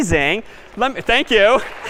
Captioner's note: applause